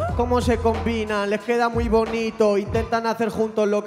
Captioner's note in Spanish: none